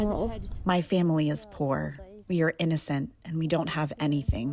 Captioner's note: through translator